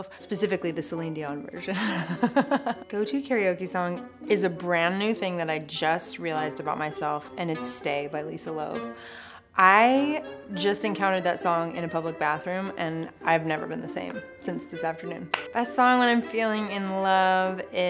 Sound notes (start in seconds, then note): 1.8 laughing